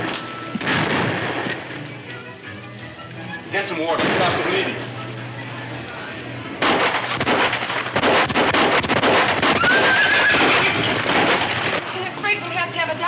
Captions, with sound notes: Get some water, stop the bleeding. (gunfire pops) (horses neighing) - I'm afraid we'll have to have a doctor pretty soon.